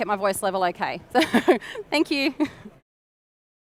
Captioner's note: chuckles